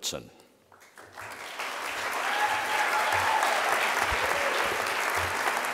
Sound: audience applause

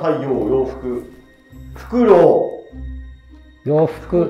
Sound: owl

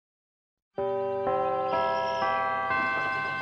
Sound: birds chirping, bells chime

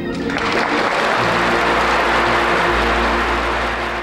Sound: audience applauding

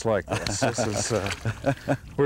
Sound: laughter

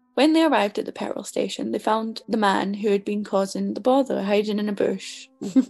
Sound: laughs

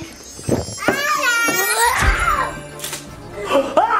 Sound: screams

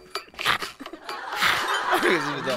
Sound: giggling

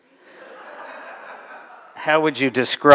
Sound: laughter

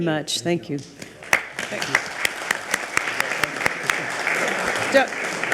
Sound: all applauding

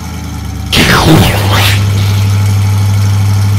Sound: explosion

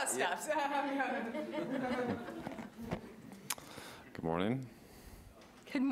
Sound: audience laughs

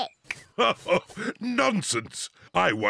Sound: laughs

